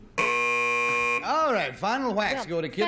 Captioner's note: buzzer